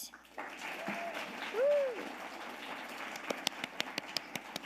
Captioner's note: audience applauding